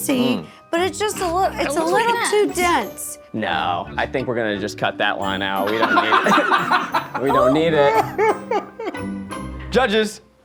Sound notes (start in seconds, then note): 5.6 all laughing; 9.4 playful music